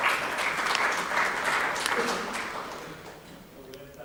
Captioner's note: applause